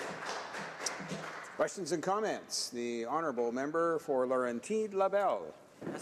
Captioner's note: applause